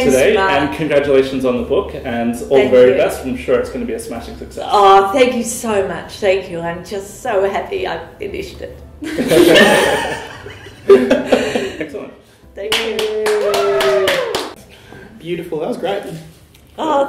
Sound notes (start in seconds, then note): 9.0 laughter; 12.6 clapping, cheers